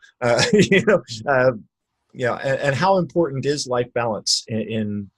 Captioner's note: laughs